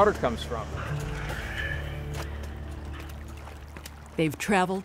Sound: water trickling; footsteps splatting

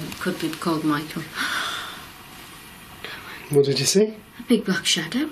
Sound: gasps

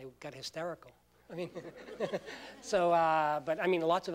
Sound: laughter

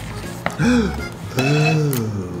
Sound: gasp

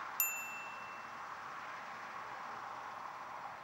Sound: bell chimes

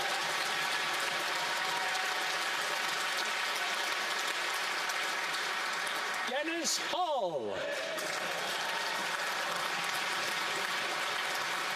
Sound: applause; cheering and Applause; applause

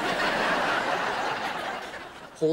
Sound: laughing

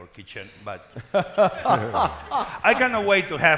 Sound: panelists laughing

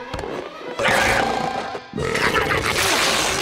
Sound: belching

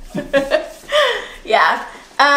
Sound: woman laughing

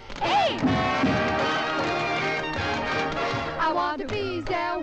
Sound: women tapping

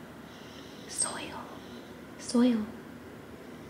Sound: whispers

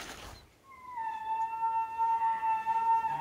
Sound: caller bugling

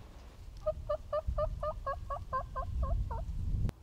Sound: squawking

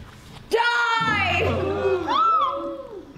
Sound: gasps and shrieks

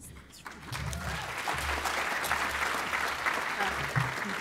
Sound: applause

